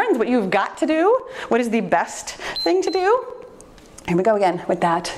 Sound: timer beeps

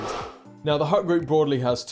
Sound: screen wipe whooshes

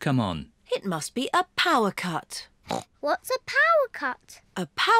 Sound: grunts

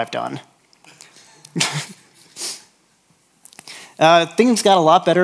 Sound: laughs

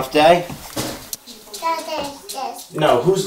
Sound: baby babbling

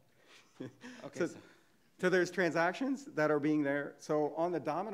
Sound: laughing

